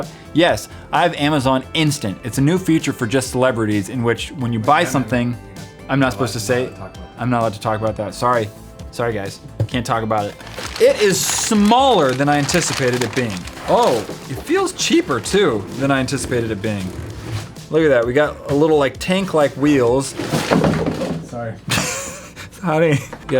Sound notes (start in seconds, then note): 20.3 thump; 21.7 laugh